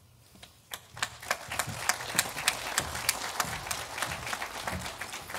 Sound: audience applauding

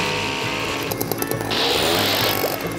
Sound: reef blower blows

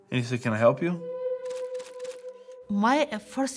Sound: picture clicking

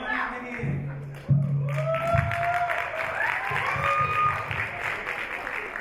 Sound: audience applaud

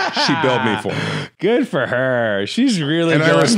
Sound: laughs

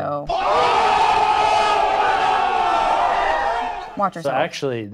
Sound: crowd roars

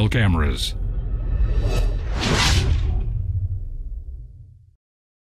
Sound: electronica whooshing

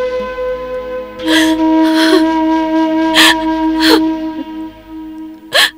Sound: sobbing

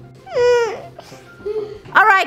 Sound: whimpering

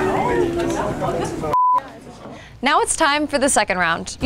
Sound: participants chattering; beep

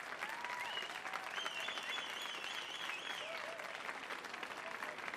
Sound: audience applauds

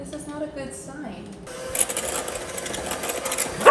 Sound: mixer buzzing; Gus barking

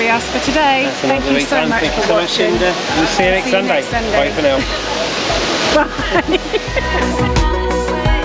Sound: laughter

